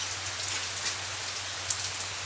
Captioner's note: rain